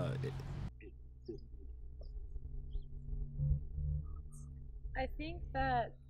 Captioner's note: radio interference drowns out sound